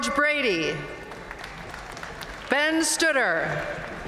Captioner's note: audience cheering and applauding